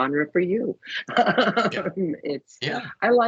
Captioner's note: laughing